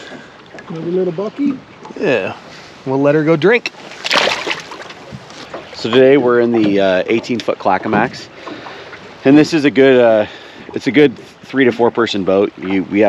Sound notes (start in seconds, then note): 5.6 fish splashing